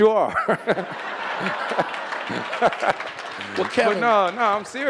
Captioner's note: audience laughing